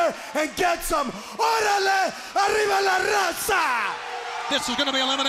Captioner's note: speaking in foreign language